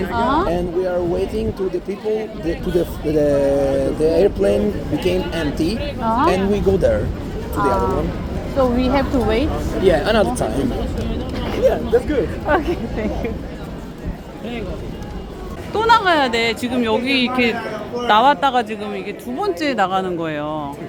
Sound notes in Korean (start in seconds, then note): 11.4 어이없어 웃음이 나는 중